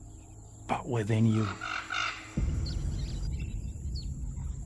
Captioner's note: birds chirping; birds cawing